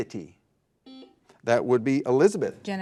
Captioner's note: buzzer buzzing